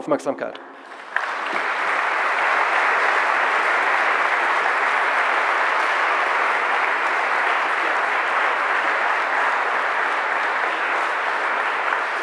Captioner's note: general applause